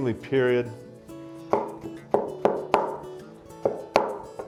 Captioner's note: knife clacking